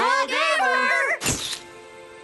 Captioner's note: shutter click